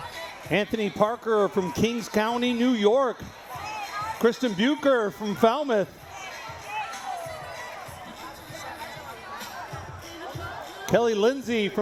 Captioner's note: cheering